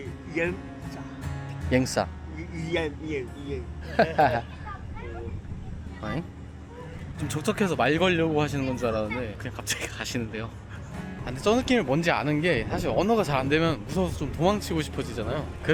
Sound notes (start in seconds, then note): 3.8 both laugh awkwardly